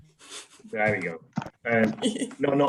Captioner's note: laughs